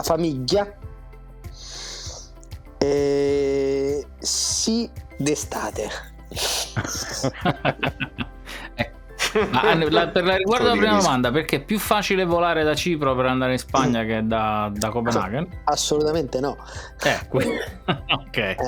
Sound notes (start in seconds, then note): 6.5 laughs